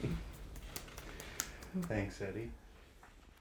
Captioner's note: applauding